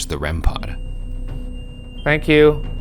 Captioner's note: REM pod screeching